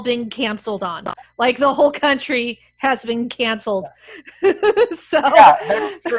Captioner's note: laughs